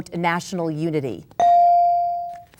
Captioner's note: bell dings